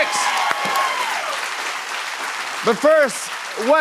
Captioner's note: cheers and applause